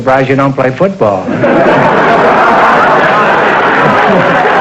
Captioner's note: audience laughter